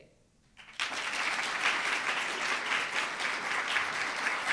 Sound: audience applauds

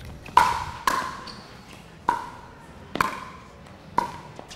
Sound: ball bouncing

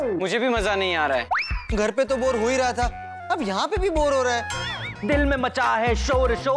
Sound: none

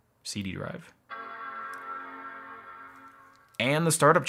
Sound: machine chimes

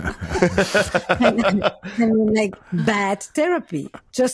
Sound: all laughing

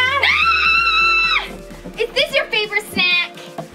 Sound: Gertie screaming

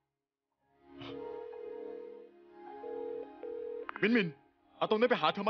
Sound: phone connecting

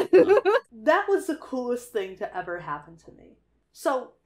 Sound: laughs

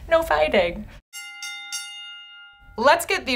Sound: bell dings

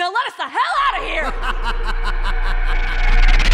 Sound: maniacal laughter

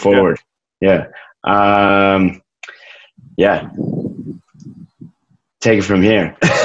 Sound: laughs

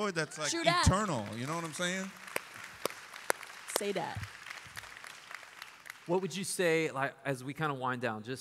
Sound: applause

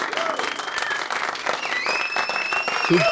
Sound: applauding; whistles

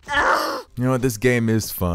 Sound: yells; groans

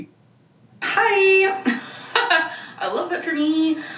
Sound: chuckles

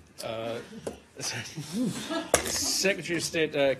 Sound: laughter

